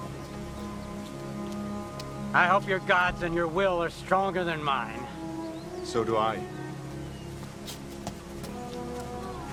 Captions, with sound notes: - I hope your god's and your will are stronger than mine. - So do I. (footsteps)